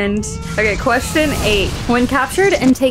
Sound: explosion noise

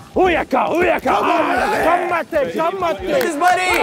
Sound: chanting; clapping

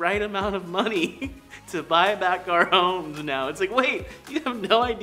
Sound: chuckles

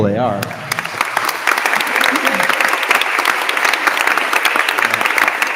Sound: attendees applauding

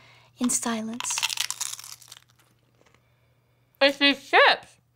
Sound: crunching

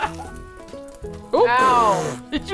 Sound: laughs; sputters

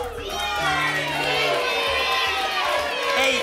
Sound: audience shouting numbers

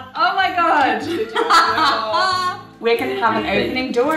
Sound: laughing

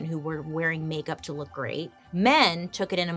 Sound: none

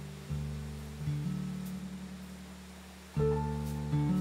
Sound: gentle music; water gushing; gentle music

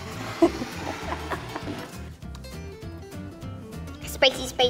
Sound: interviewer chuckles

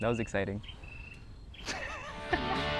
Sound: laughs

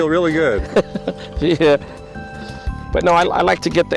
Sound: chuckles

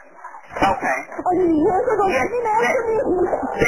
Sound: yelling

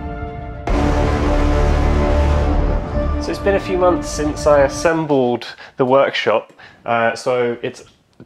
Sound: another dramatic drone sound; dramatic drone sound

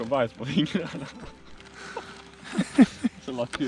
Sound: laugh

